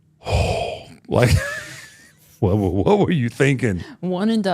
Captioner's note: chuckles